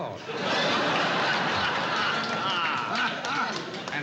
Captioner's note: laughter